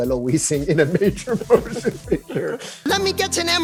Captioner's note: laughing